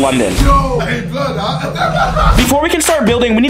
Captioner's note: KSI laughing